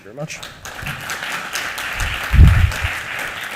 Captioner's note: applause